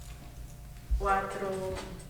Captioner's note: spanish